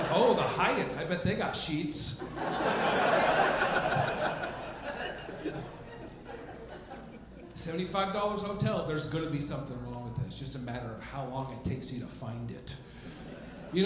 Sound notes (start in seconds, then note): 2.2 audience laughing